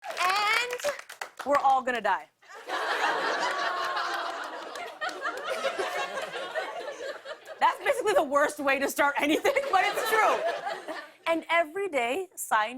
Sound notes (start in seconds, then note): 1.9 audience groans; 4.2 laughter